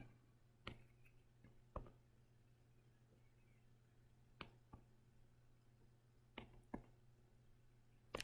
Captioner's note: writing Sounds